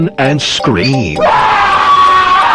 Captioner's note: screams